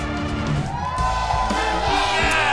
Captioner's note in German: Jubel, Applaus